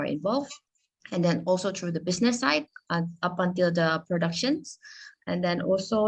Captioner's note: speaking Indonesian